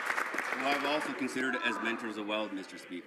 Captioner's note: some Applause